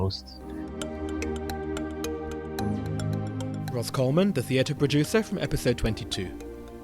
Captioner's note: voiceover